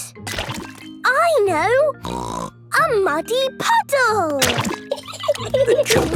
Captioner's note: laughing